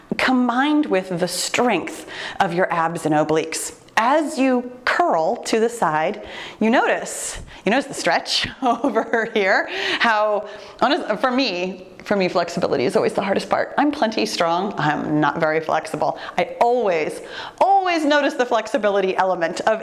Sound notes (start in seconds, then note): 8.5 chuckling